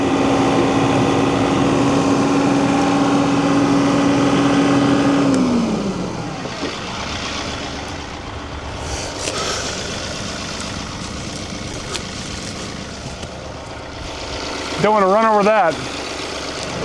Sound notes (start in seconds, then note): 8.6 motor whirring